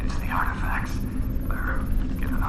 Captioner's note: Voice from phone